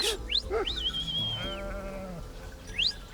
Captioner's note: shepherd whistles